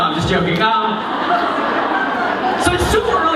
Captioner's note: laughter